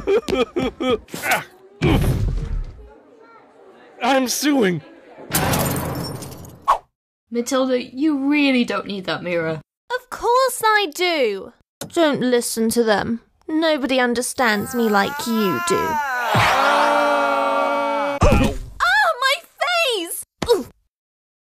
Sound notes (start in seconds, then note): 5.3 crash